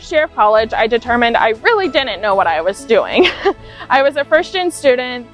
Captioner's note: laughs